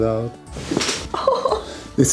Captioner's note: crunches of bones